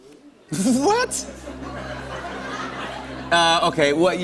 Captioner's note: laughter